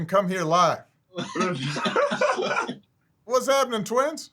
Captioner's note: both laughing